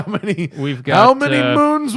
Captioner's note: laughter